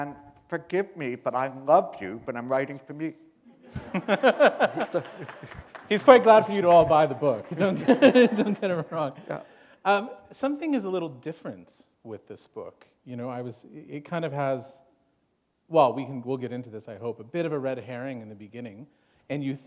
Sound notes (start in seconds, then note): 3.6 laughter; 8.6 chuckle